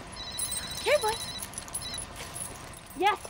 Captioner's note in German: Telefonklingeln